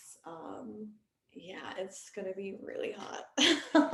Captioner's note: laughing